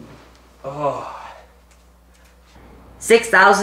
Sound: groans

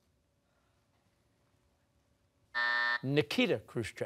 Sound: buzzer

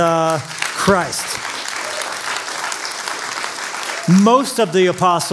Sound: applause

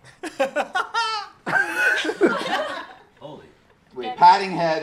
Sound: laughing

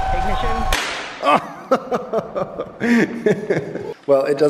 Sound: laughing

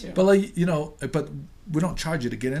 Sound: voiceover

